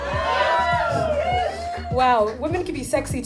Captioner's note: crowd cheers